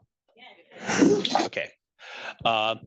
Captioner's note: attendees chattering